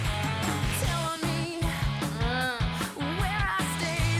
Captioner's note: Izzie groans